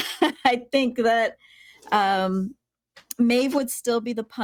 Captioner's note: laughing